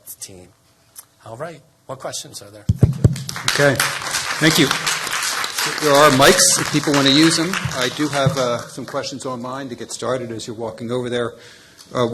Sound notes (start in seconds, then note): 6.6 applause